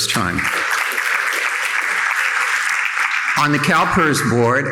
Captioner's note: audience applauding